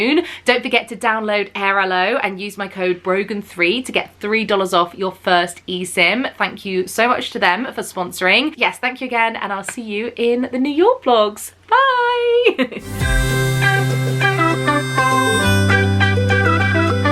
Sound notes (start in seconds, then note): 12.4 giggling; 12.8 upbeat music